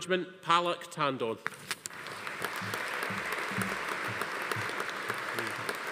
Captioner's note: audience applauding